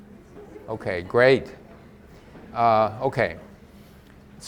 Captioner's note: audience laughs softly